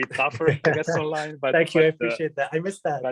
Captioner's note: laughing